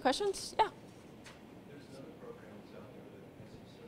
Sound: voiceover

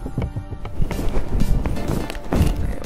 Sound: mic noises

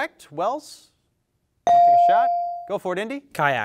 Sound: bell dings

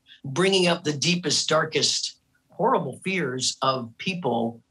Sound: none

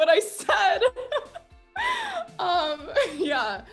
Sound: laughing

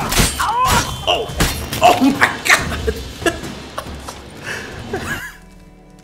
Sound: laughing

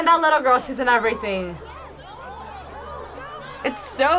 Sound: crowd shouting

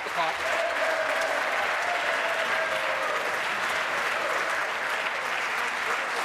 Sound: some Applause

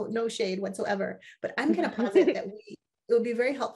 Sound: chuckles

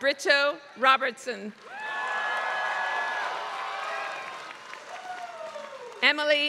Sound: applause

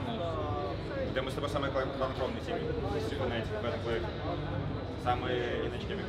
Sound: players speaking in Russian

